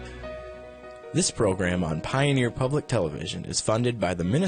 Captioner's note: voiceover